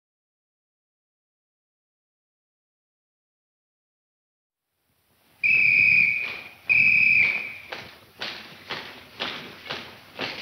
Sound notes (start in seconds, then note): 5.4 officer whistling; 7.3 footsteps tapping